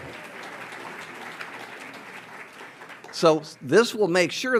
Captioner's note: audience applauds